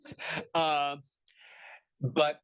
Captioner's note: laughing